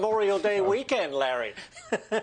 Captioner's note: laughter